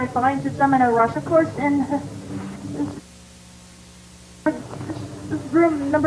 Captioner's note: chuckles